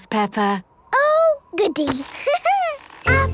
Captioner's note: laughing